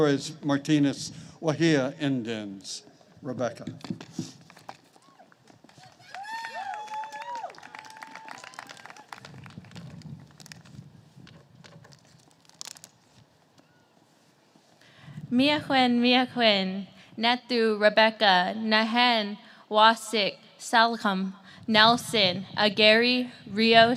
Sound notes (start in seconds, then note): 5.7 applause